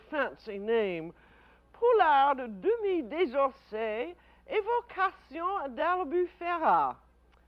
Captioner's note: speaking French